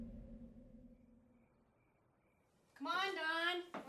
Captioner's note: crickets chirp